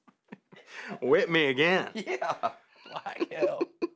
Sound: laughs

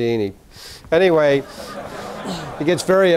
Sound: laughing

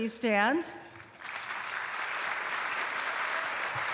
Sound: applause

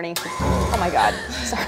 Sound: mixer whirring

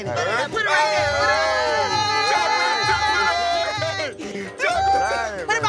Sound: cheering

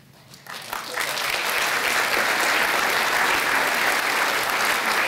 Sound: applause

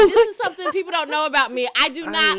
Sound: laughter

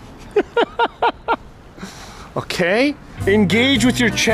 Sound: laughing

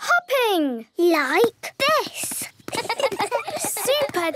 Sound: laughs

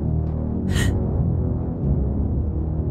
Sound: May gasps

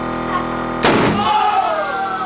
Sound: explodes

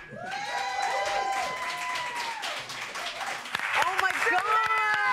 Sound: applause

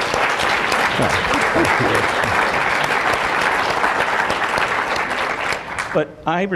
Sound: applause

